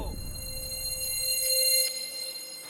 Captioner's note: reverb